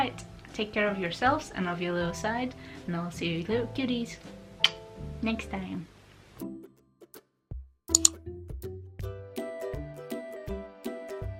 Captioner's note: blows kiss